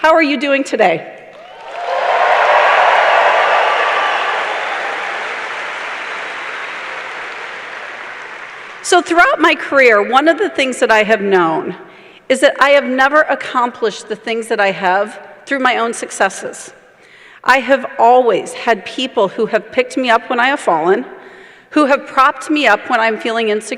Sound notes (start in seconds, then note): 3.2 cheers and applause